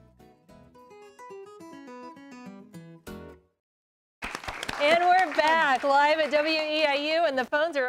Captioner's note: �applause�